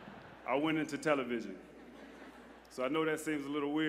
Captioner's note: laughter